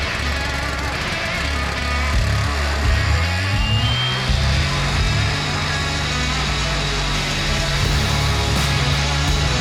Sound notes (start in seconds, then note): 3.0 saw buzzing; 6.3 upbeat music continues